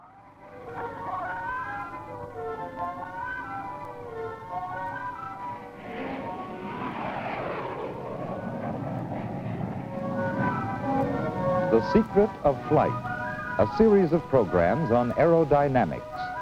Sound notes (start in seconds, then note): 6.2 plane whooshing